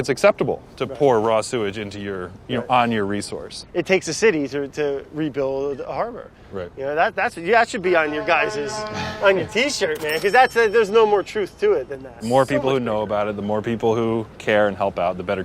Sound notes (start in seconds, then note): 8.9 laughs; 9.8 cash register rings